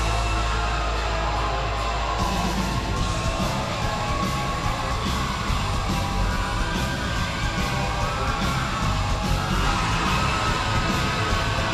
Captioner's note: crowd cheering